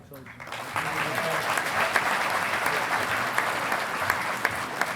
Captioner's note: audience applauding